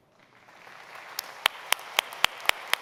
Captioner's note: applause